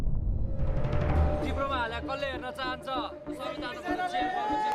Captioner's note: speaking in foreign language